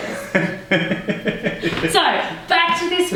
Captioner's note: laughs